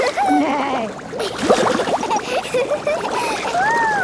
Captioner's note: giggling, neighing; giggling